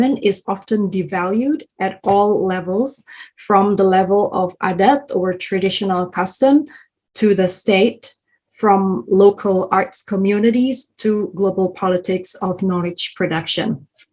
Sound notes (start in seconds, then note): 3.8 speaking in foreign language